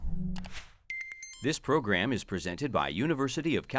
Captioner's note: voiceover